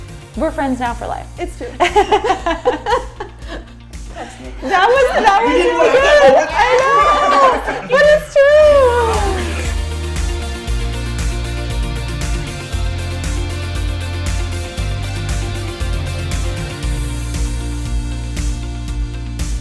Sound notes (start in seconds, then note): 2.2 laughs; 8.7 upbeat music